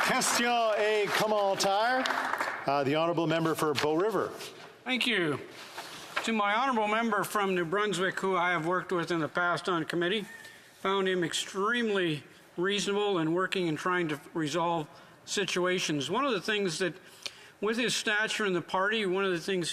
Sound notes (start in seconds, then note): 5.0 some Applause